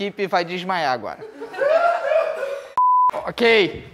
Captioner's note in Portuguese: risadas